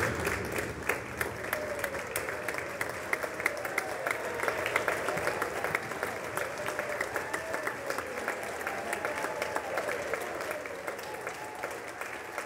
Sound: applause

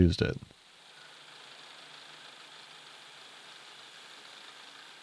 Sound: milling machine whirring

